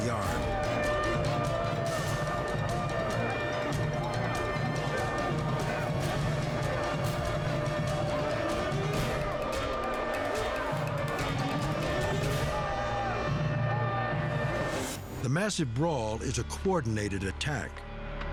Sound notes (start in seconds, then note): 0.2 siren wails; 5.4 prisoners shout